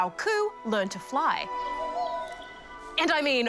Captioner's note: hoots